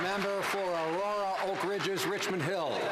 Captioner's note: some Applause